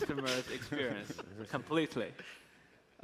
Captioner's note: laughs